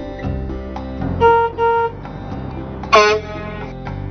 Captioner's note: honk